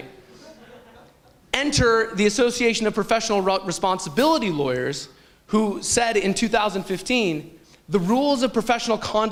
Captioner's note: chuckle